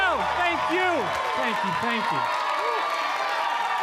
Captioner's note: audience cheering